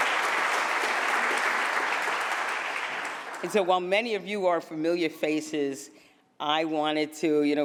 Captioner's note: applause